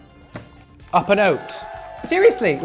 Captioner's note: crowd cheers